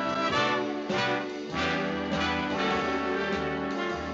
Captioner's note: none